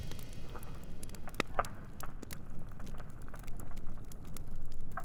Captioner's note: fire crackling